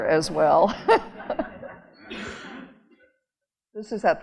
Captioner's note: audience laughing